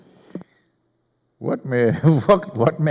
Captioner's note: Sadhguru laughs; laughs